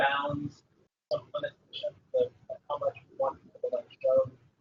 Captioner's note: talking